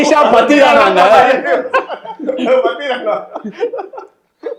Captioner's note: all round laughter